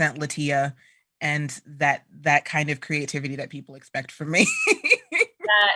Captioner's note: laughter